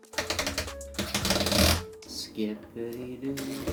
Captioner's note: tool drilling